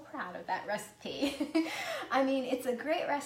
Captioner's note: laughs